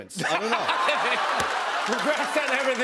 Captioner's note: laughter